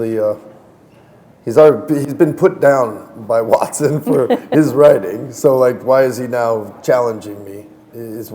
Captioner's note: chuckle